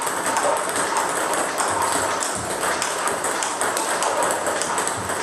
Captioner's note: ball ping pong hitting continues